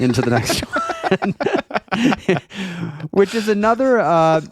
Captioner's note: laughing